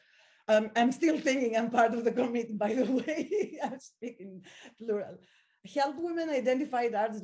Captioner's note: laugh